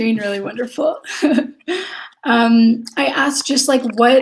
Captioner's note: laughs